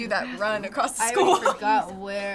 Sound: laughing

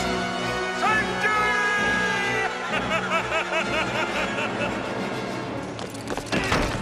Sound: laughing

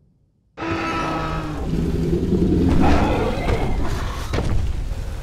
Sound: dinosaurs roaring

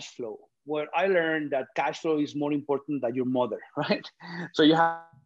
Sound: laugh

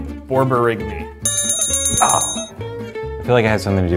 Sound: bell rings

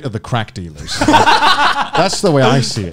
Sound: men laughing

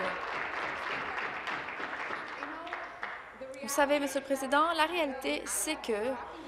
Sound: applause

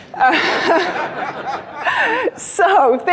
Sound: laughs; audience laughs

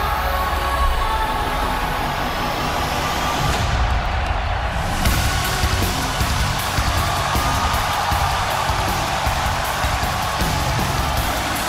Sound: cheers and applause

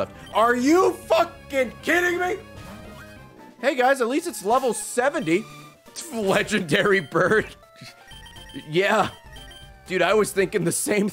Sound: laughs

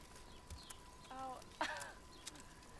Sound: chuckling; chuckles

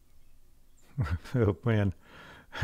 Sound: instructor laughs

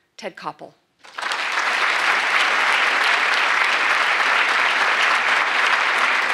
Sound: applause

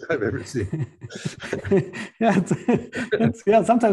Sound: laughter

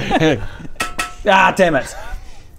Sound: dink dink

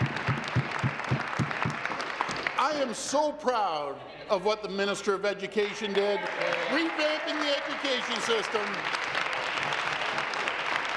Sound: some Applause

